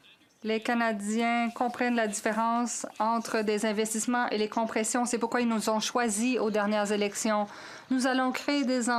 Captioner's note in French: voix de l'interprète